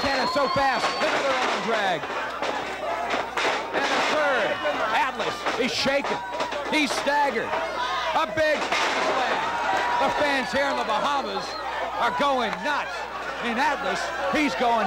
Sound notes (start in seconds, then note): 0.0 bell rings; 1.3 crowd shouting